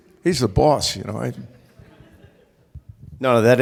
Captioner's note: laughter